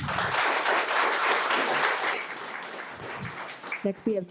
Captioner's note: audience applauding